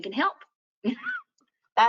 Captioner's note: chuckles